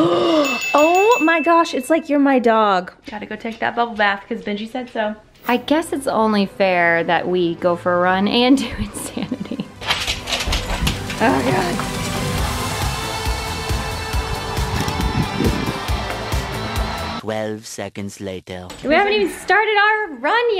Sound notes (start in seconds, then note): 0.4 bell dings; 8.6 laughs; 12.5 high energy rock music